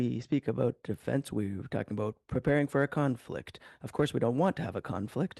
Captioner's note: speaking French